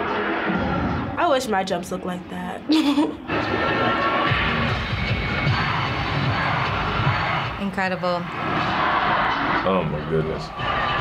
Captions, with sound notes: I wish my jumps looked like that. (chuckles) - Incredible. - Oh my goodness.